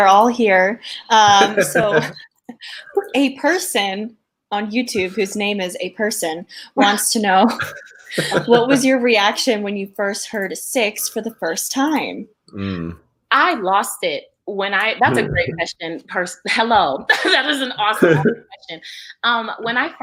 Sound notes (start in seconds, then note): 1.2 laughs; 7.3 laughs